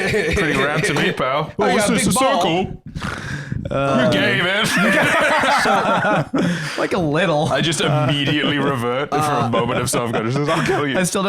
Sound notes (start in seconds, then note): 4.0 laugh